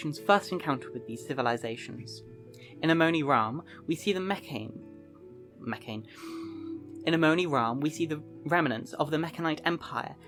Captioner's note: Mekhane, sigh